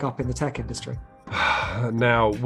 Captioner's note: man sighs